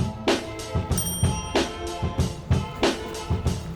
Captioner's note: bell dinging; upbeat music